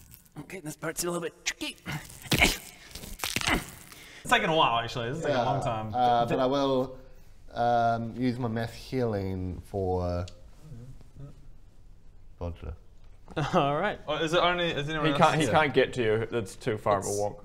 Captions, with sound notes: okay this part's a little bit tricky *snap* *crunch* It's taking a while actually, this is taking a long time Uh but I will um use my mass healing for Bodger Alright! is it only is anyone else-- He can't get to you, it's too far of a walk